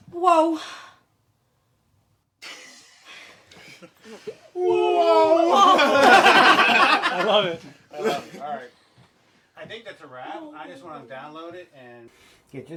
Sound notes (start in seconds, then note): 5.5 everyone laughing